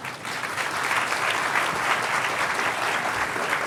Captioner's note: applause